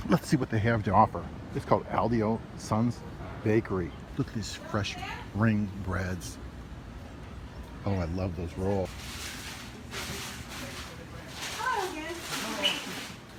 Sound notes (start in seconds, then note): 8.8 paper crinkles